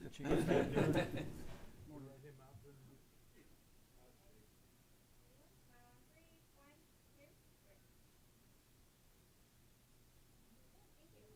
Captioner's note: laughter